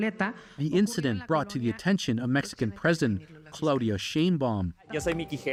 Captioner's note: speaking alternate language